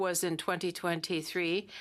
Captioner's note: speaking French